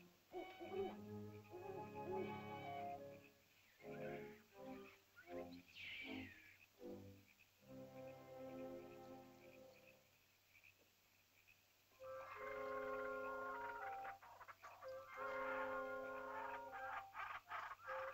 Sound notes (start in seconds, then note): 0.0 ominous music; 0.3 soft ominous music; 1.4 owl hoots; 3.0 soft ominous music; 5.7 small animal screeches; 7.8 soft ominous music; 11.1 frogs croaking; 11.9 soft ominous music; 12.1 animal chittering